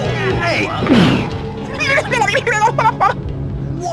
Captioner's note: laughing